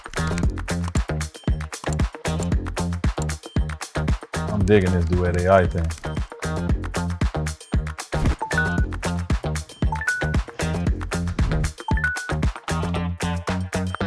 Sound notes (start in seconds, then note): 1.3 keyboard clacking; 8.4 notification pings